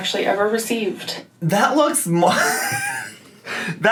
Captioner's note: laughs